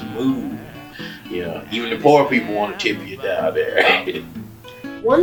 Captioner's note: laughs